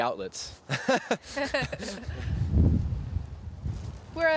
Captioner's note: laughter